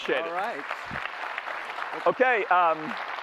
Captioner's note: applause